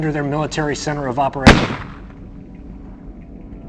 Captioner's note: bang